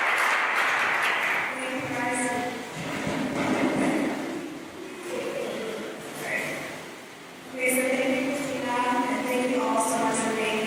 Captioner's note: applause